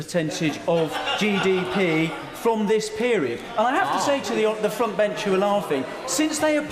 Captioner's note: laughter